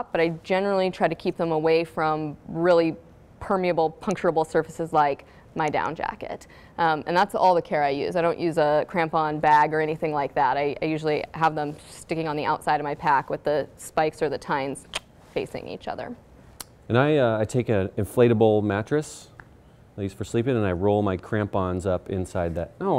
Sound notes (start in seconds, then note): 14.5 clicks tongue